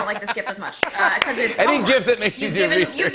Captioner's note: laughter